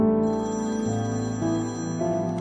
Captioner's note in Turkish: Telefon çalıyor